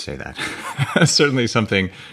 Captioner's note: chuckling